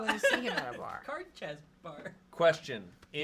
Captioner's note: laughing